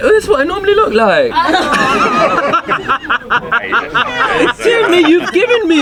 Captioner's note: audience laughing